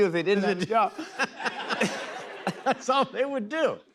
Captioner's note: laughter